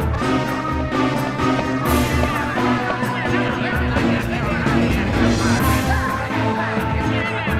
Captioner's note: crowd sounds